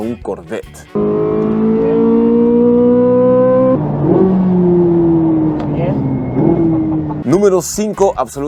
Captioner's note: engine revving